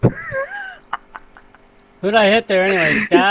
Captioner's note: still laughing; laughing continues